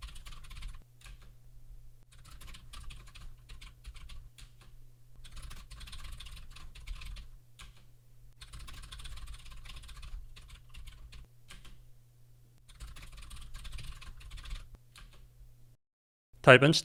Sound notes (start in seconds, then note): 2.9 typing sounds